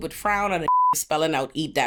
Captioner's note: beep